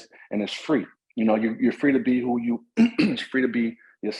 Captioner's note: coughs